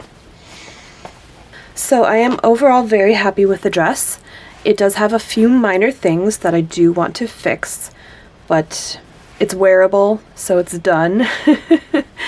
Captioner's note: laughs